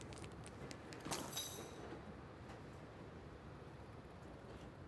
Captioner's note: keys rattling